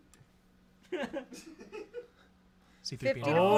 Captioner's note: laugh